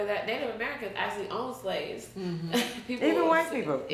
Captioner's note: chuckles